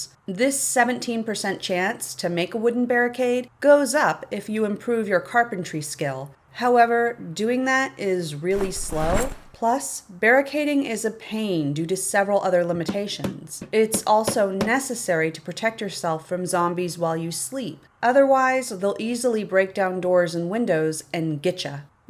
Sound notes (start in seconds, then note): 12.8 tap, tap; 17.0 tap, tap, tap, tap